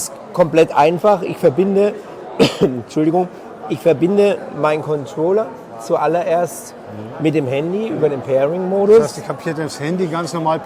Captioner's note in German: hustet